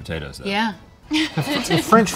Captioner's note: laughs